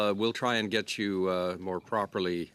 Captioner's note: off mic